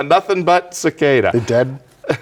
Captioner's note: laughing